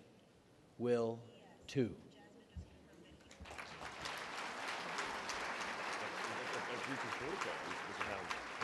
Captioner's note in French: Applaudissements